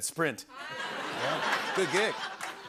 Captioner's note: laughter and applause